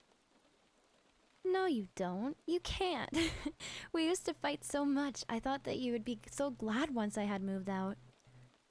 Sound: laugh

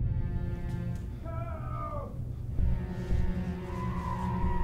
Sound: man screaming

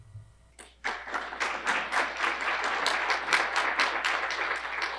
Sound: audience clapping

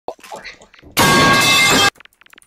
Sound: metal pipe falling

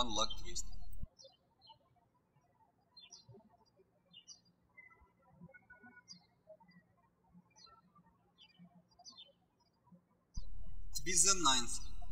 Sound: birds chirping

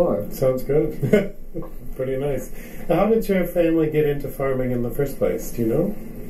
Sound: chuckles

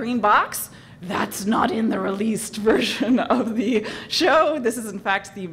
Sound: laugh

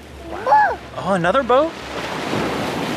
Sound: speaking gibberish

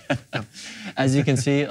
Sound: laughing

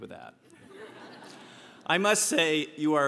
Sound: laugh

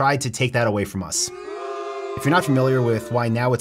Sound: booing

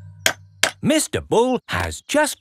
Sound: clanking

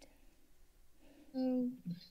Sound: silence

